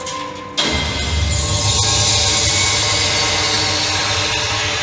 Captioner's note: music, glass breaking